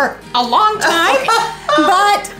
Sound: laughing

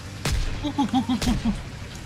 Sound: random ape noises

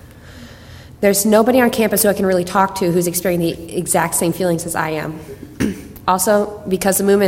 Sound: clears throat

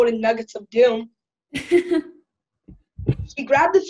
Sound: laughing

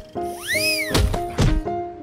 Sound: thud

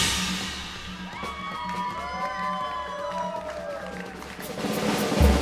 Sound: audience cheers

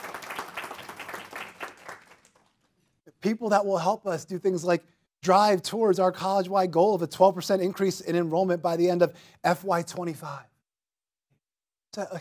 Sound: clapping

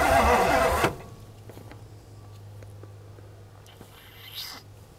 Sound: vehicle engine stops

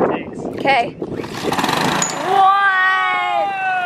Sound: engine ignites

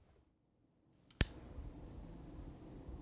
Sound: lightswitch

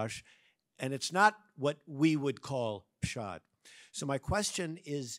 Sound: speaks in Hebrew

